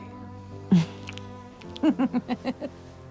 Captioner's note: laughs